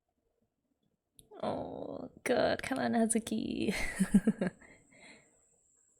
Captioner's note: laughs